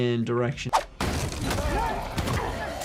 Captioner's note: screen swooshing; body thudding; fighters grunting